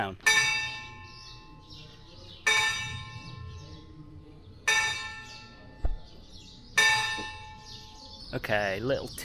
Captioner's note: bell ringing